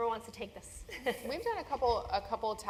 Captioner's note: laugh